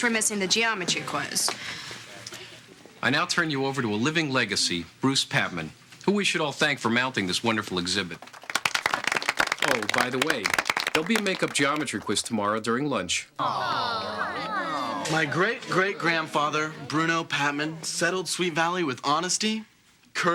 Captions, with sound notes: but at least we're missing the geometry quiz. I now turn you over to a living legacy, Bruce Patman, who we should all thank for mounting this wonderful exhibit. [applause] Oh, by the way, there'll be a makeup geometry quiz tomorrow during lunch. -Awe, no. -Come on. My great-great-grandfather, Bruno Patman, settled Sweet Valley with honesty,